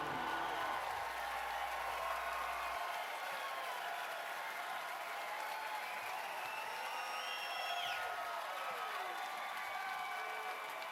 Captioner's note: cheers and applause